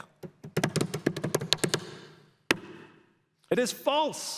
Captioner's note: drums hands on table